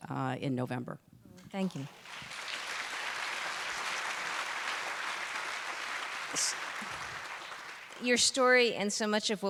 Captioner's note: applause